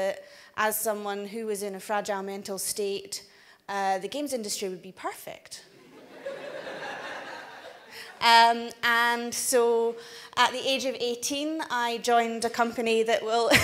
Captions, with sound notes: as someone who was in a fragile mental state, the games industry would be perfect. (audience laughs) And so, at the age of 18, I joined a company that will